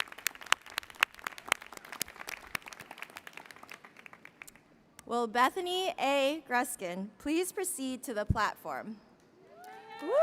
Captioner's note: applause